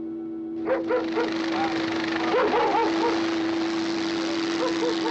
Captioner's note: barking continues; helicopter whirring